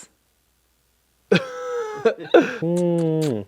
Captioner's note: laughs